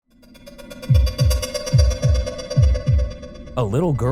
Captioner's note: eerie music; heart thudding